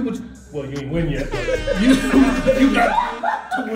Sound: laugh

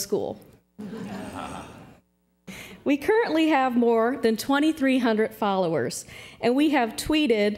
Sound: laughter

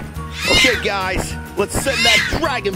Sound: dragon squeals

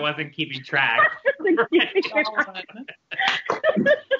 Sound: laughter

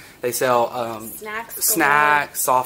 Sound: echoing

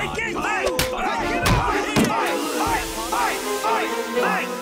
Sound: Beagles chanting; Beagles clamoring and chanting

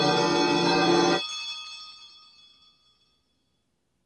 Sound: ringing and chiming stops

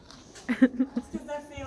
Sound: laughter

